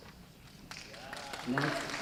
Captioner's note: applause